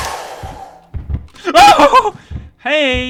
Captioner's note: startled screaming